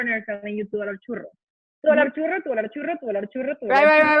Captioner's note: foreign Language Spoken